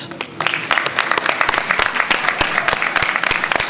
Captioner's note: applause